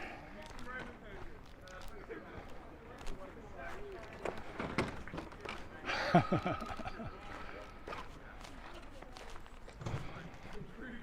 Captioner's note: laughs